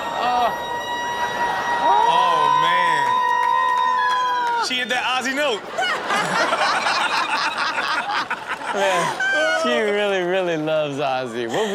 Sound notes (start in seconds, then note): 0.1 crowd laughs; 3.6 still wailing; 5.6 everyone laughs